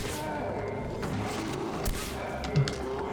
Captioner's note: gunfire